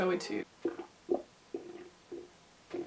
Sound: stomach noises???

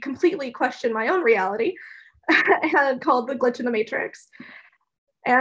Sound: laugh

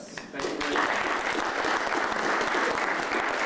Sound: applause

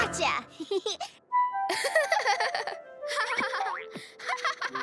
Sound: Rodney laughs; laughs

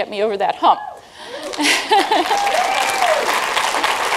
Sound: applause

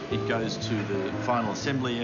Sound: machinery buzzes

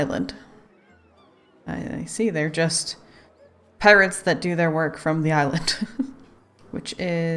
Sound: laughs

